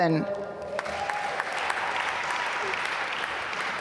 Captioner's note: applause